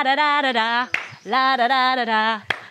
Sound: claps; claps

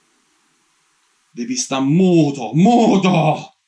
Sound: in Italian

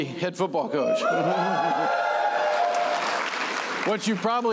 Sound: cheering

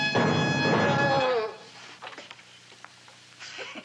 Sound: groaning; giggling

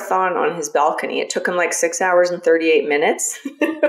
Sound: laughs

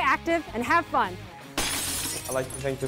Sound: glass shatters

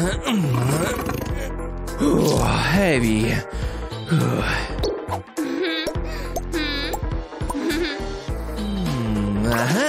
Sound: burp

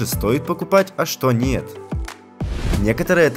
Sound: whoosh

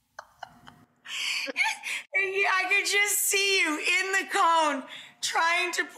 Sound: laughs

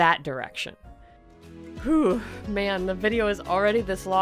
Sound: sigh

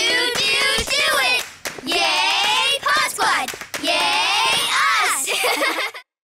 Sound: laughs

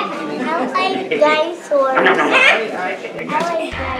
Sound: makes chomping sounds

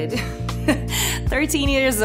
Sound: laughs

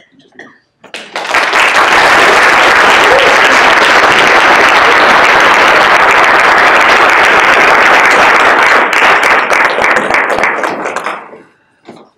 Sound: applause

